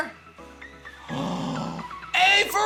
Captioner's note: gasps